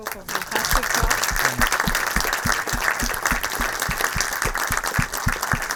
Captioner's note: audience applauding